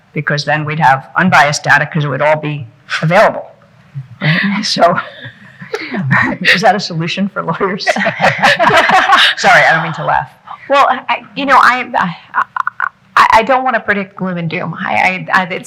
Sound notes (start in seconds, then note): 4.9 people chuckling; 7.6 people laughing